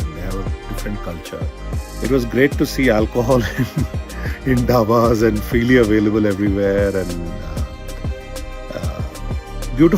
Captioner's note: laughs